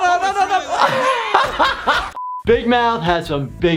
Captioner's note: laughs